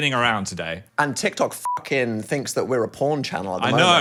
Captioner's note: beep